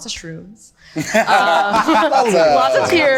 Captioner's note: group laughing